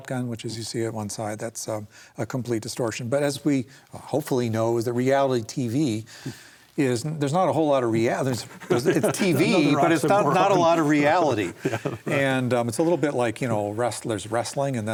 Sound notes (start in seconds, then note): 11.0 laughs